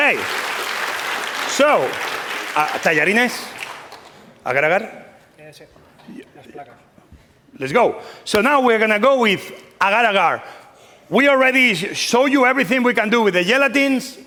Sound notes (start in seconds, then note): 2.8 speaking spanish